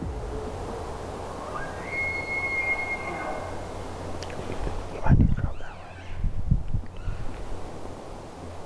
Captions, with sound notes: (Elk bugling) I might need to move that way.